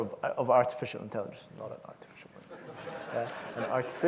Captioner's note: audience laughs